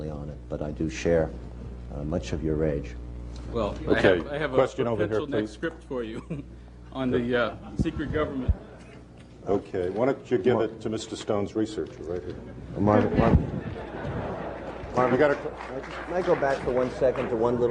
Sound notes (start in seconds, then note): 13.6 laughter; 14.3 applause